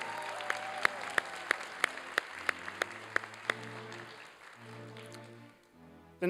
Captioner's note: applause